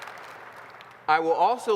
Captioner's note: applause